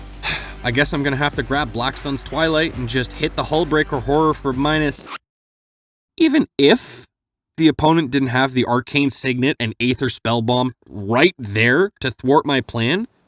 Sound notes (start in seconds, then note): 0.2 sigh; 4.6 record scratch